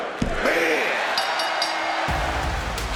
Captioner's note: bell rings; upbeat music